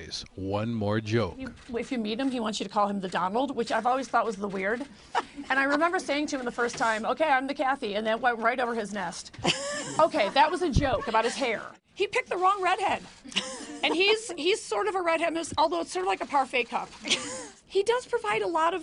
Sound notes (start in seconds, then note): 15.0 laughter